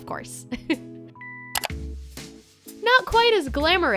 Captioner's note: clicking